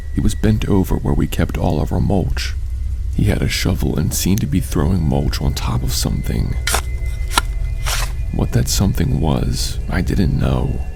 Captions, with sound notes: He was bent over where we kept all of our mulch He had a shovel and seemed to be throwing mulch on top of something. *digging noises* What that something was I didn't know.